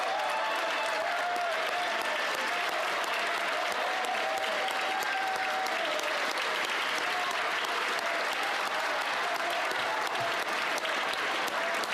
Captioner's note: applause